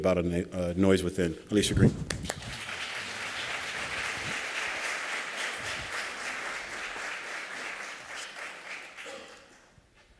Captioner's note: applause